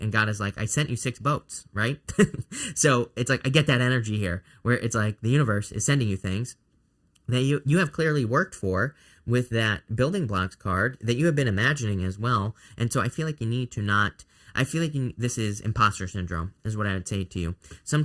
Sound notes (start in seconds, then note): 2.1 laughs